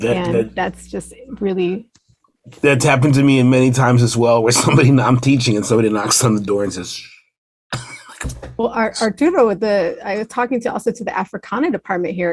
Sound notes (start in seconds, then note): 7.8 laughs